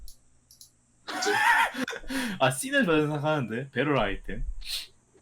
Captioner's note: laugh